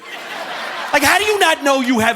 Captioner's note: audience laughing